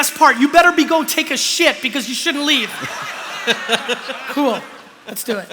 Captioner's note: laughter